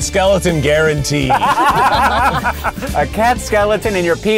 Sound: all laugh

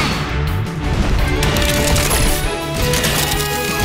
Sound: metal clanging

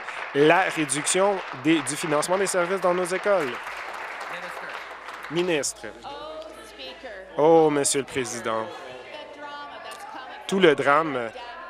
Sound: applause

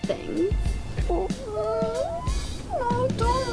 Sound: Beatrice and Hero squeaking sadly and lovingly

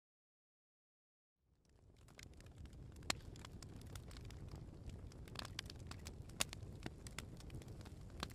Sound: fireplace crackling

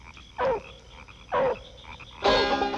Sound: barking

